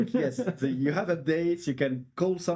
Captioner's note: laughing